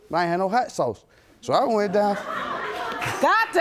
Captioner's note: audience laughing